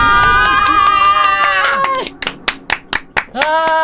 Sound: clapping

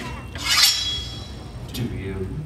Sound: unsheathes machete

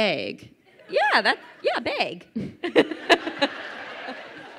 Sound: laughs; crowd laughing

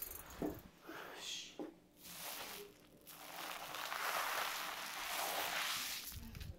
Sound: bubble crushing

